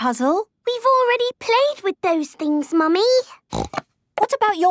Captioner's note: snorting